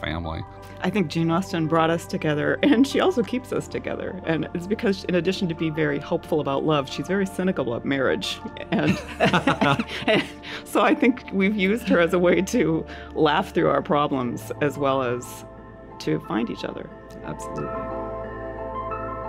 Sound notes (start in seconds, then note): 8.8 laugh